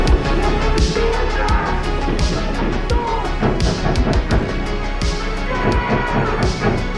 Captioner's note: tense menacing music; door thudding